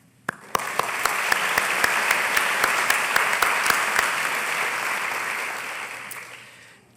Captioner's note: applause